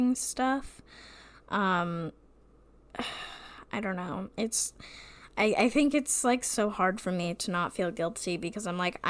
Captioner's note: sighs